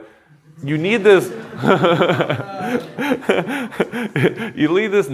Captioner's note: laughter